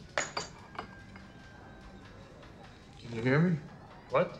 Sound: cups clattering

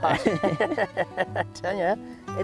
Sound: laughter

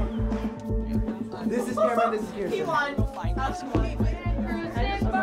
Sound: students rehearsing

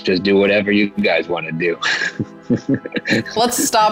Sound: laughing

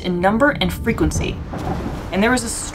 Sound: background music; thunder sound

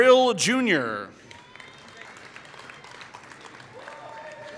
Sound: applause

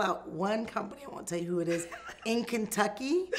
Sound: laughs

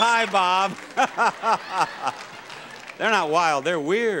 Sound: Bob laughs

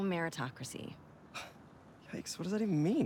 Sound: laugh

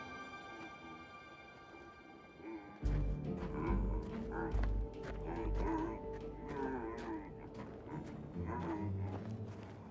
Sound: unknown humming

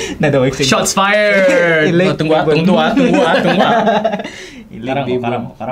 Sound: laughs

